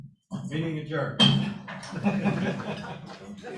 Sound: gavel bang; laughter

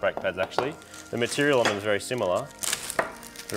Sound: clattering

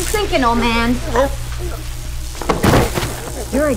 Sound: electricity crackles; muffled cry

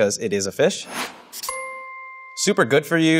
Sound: dinging

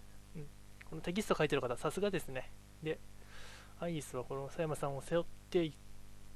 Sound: gasp

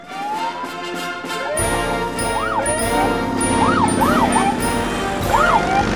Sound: sirens

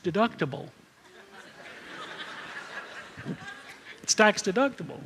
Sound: laughter

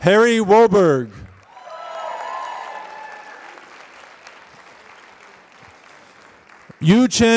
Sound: applause

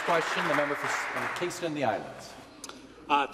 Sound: some Applause

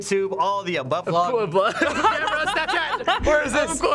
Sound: laughter and overlapping speech

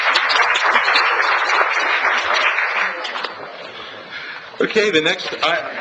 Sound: audience applauds

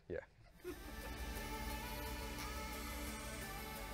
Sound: producer laughs

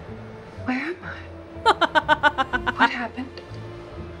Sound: laughs

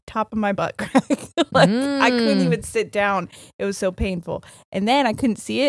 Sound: laughs

